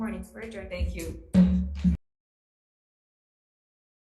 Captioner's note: gavel hits